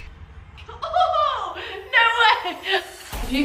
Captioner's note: excitement